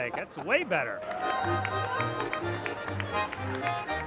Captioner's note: applause